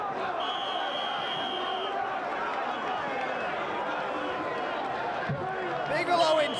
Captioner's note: whistle blowing